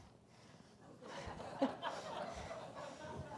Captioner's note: laughter